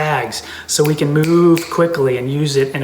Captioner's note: snaps fingers repeatedly